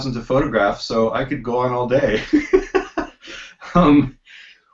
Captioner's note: laughs